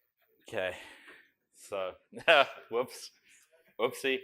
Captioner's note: laughter